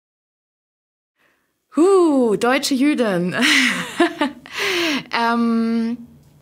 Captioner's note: laughs